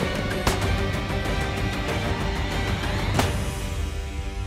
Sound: gunshots ring

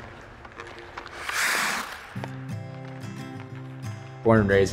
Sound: skates scraping on ice

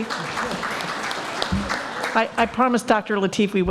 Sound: applaud

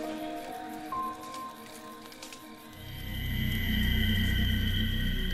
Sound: twigs cracking

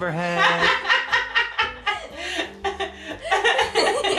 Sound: laughter

